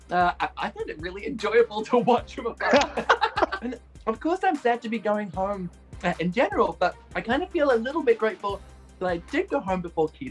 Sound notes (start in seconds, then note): 2.6 both laughing